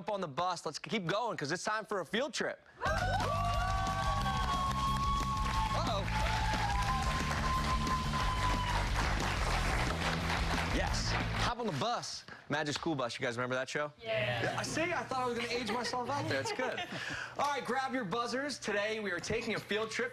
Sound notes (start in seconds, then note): 4.5 cheers and applause